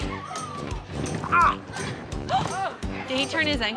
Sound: groans

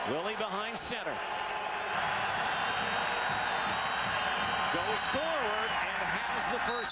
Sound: applause

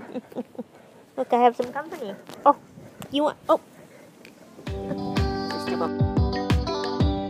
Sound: laugh

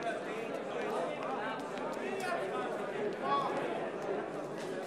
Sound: people milling about

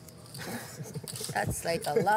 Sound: laughing

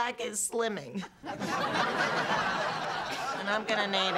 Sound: laughter

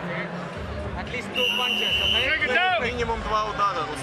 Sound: whistle

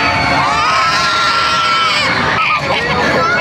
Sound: screaming prayers; screaming intensifies

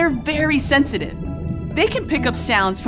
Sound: scuba tank bubble sounds

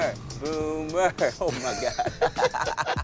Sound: laughing

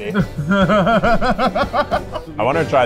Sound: laughing

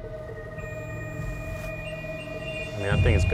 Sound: beeps

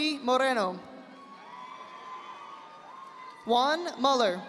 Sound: audience applauding

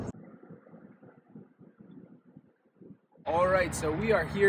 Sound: road Noise

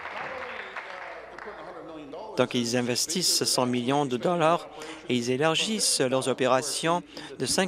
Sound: applause

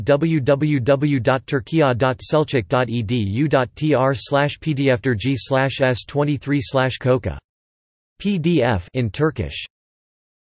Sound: in Turkish; in Turkish

